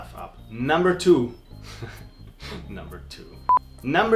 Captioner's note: giggles